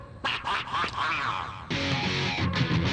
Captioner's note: male laughs sinisterly; upbeat rock music